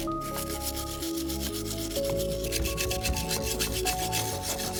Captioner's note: slow techno music; wire brush scraping